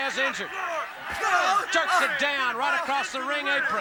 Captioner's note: crowd chatter